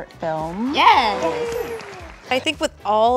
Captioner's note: all clapping